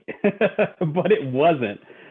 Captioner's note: laughing